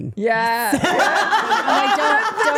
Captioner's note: everyone laughing